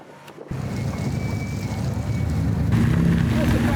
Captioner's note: engine rumbling